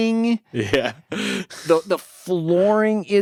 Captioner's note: laughs